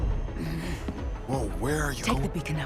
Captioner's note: suspenseful music; growls